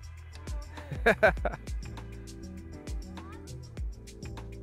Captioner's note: laughs